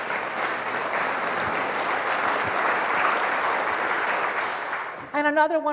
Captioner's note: applause